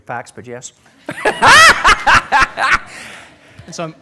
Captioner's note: laughter